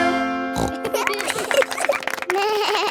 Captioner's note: snorts; laughing; bleats and laughs